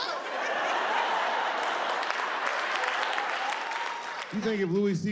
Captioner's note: audience laughing